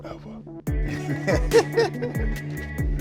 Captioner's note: laughter; soft hip hop music